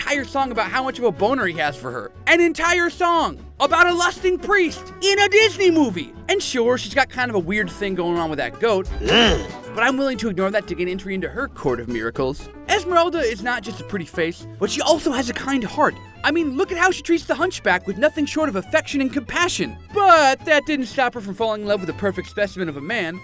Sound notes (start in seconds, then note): 9.0 goat grunting